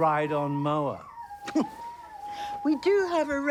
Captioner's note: Robyn scoffs